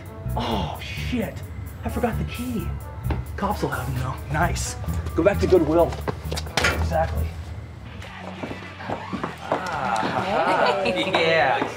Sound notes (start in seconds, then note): 5.0 railing clangs